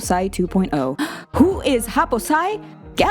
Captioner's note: gasps